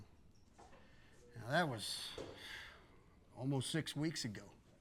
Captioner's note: sighs